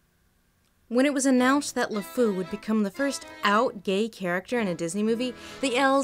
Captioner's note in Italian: voce fuori campo